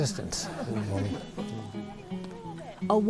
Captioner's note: group laughing